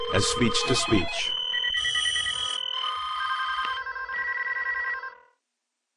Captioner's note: many phones ringing